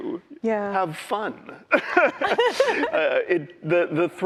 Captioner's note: laughter